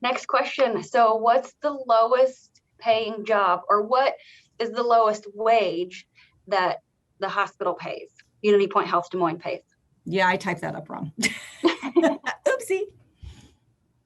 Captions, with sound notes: next question. So what's the lowest paying job, or what is the lowest wage that the hospital pays? Unity Point Health Des Moines pays? Yeah, I typed that up wrong. [laughs] Oopsie.